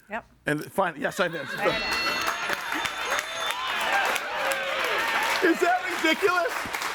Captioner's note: audience applauds and cheers